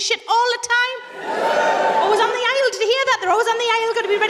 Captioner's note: more people whoop